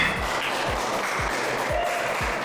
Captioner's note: applause